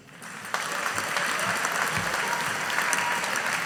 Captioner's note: audience applauding